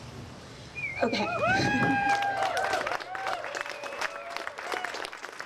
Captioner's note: crowd cheers